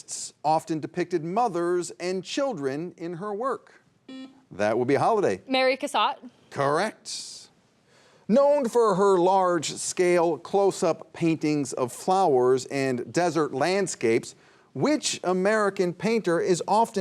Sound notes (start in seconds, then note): 4.1 buzzer buzzing